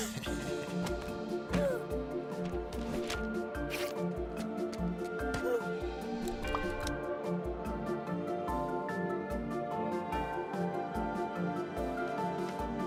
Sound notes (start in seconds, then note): 0.1 chuckles; 1.5 gasps; 5.4 grunts